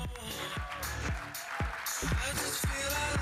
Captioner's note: audience applauding